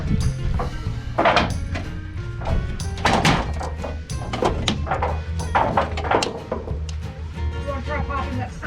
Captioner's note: sounds of building products refusing to yield